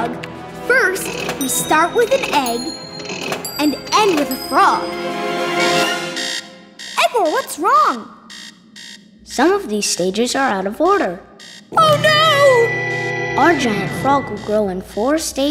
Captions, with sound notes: first we start with an egg, and end with a frog. [alarm ringing] Igor, what's wrong? Some of these stages are out of order. Oh no! Our giant frog will grow in four stages.